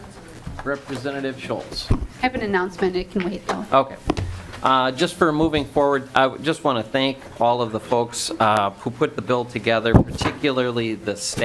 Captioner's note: gavel